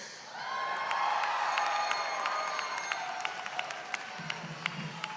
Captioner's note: audience cheering